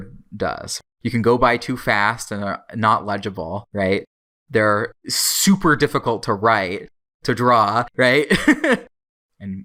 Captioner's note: laughs